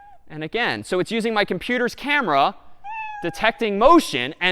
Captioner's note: meow; meow